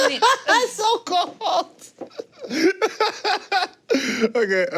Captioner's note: laughs; laughs